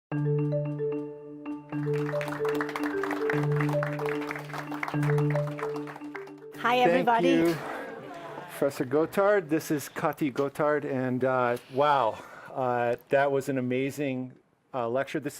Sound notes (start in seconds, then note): 0.7 soft digital music; 1.7 audience applauding